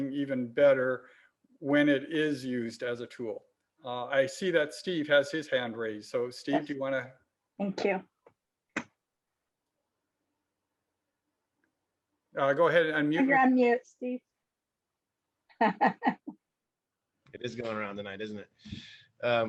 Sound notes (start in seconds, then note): 15.6 laughs